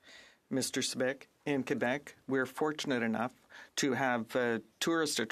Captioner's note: speaking French